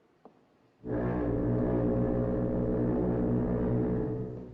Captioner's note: foghorn Blows